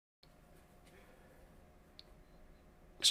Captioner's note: silence